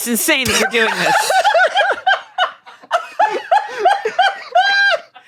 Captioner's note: everyone laughs